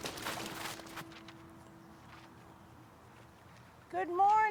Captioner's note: papers flapping; snow crunching